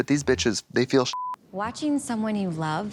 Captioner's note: beep